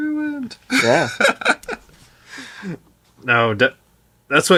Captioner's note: laughing